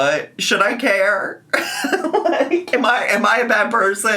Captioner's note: laughs